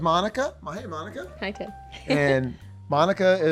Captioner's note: laughs